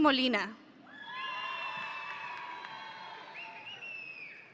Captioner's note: audience cheering